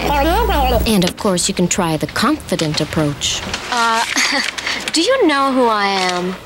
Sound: chuckle

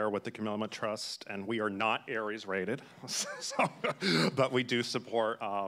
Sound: laughs

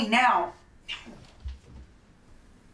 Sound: feet running

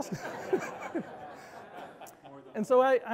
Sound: all laughing loudly

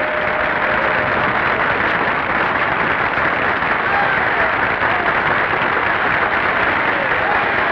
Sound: applause continue

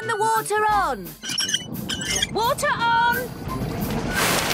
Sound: wheel squeaking

